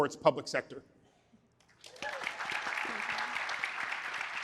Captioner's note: applause